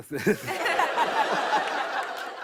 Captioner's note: laughter